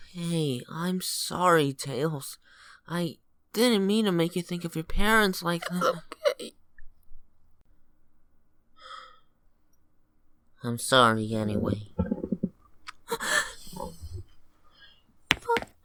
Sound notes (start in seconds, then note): 9.1 sighs; 13.1 gasps